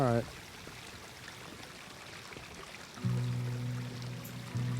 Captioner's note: rushing of water